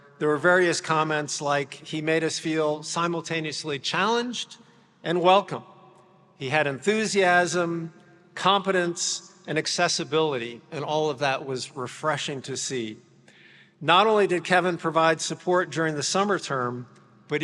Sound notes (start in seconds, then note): none